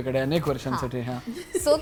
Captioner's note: chuckles